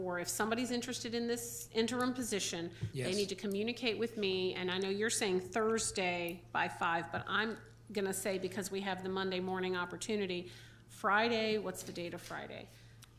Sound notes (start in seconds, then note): none